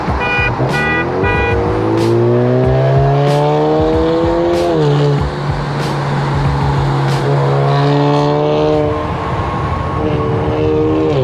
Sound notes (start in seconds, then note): 0.0 car hooting; 2.0 car engine revving; 8.0 car engine revving